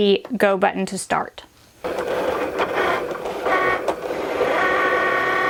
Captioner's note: printer hissing